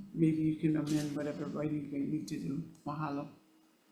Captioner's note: none